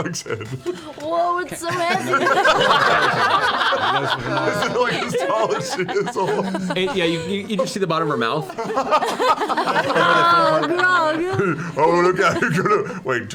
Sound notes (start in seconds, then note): 0.0 laughing; 2.0 all but Taliesin laugh